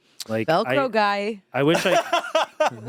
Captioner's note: laughs